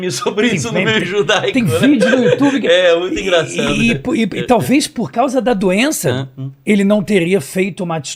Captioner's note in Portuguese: risadas